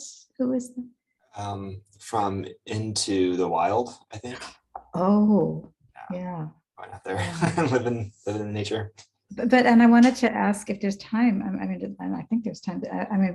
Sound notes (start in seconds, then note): 6.9 laughs